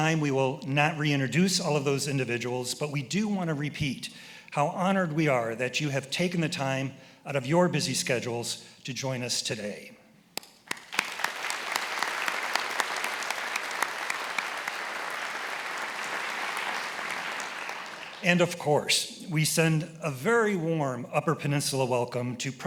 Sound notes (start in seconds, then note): 10.6 attendees applauding; 11.2 applauds